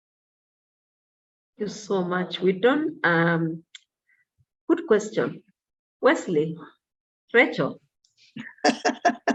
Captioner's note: laughs